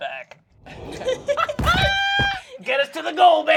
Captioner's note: they laugh